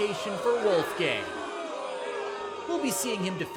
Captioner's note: audience boos